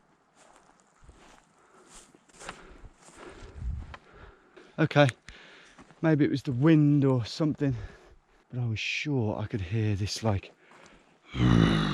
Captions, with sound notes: Okay, maybe it was the wind or something but I was sure I could hear this like (grunts),